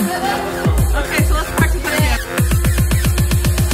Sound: laughs; dub step music

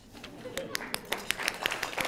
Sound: applause

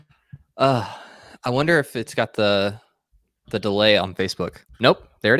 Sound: sighs

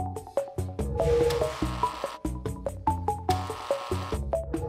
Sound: buzzing

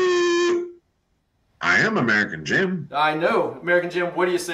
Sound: raspberry, obnoxious noises

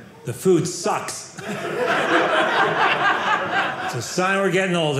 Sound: audience laughing

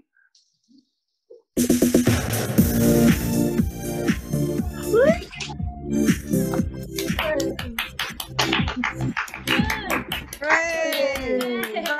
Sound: cheering

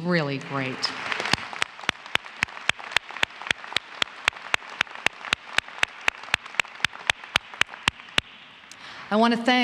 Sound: applause

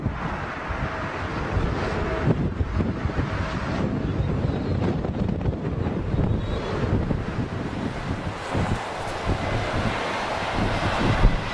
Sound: strong wind, airplane engine

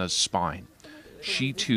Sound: speaking Foreign Language

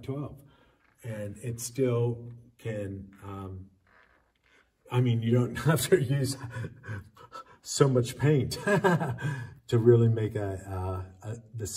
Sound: laughs

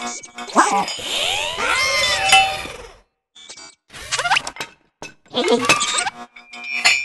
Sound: Sound effects of Wall-E trying to un-stick a magnet; Sound effects of Wall-E trying to un-stick a magnet

